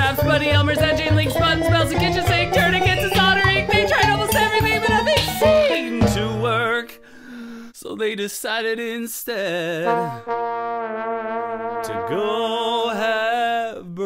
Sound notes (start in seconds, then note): 7.0 singer takes another deep breath